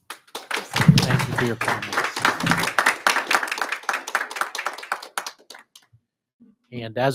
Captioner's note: audience applauding